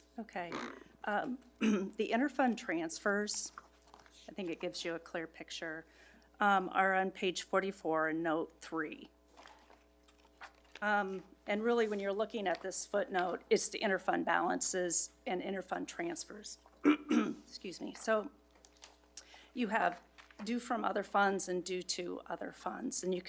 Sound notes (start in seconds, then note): 16.8 throat clears